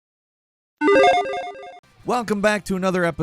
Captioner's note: electronic warble